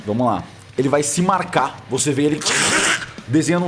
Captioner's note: ripping